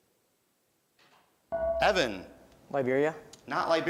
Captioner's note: beeping